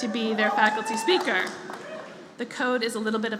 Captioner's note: applause